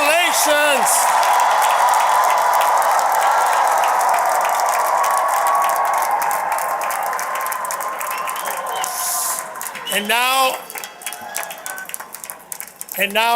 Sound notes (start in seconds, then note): 0.0 applause